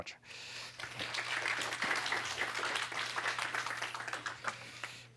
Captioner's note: applause